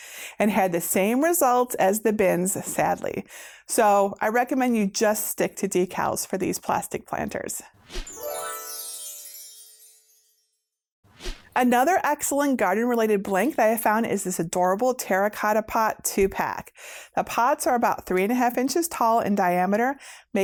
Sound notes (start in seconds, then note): 8.0 stars twinkling; 11.2 air whooshing